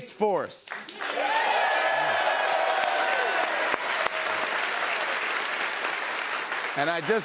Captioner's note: cheers and applause